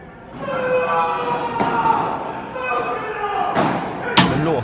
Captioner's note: Loud Argentinian joy